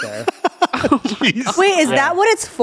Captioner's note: laughs